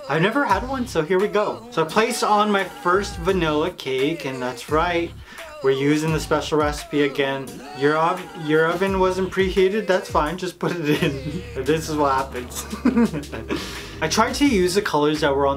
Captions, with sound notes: I've never had one, so here we go. So, I place on my first vanilla cake and that's right, we're using the special recipe again. Your oven wasn't preheated, that's fine, just put it in, this is what happens. (laughs) I tried to use the colors that were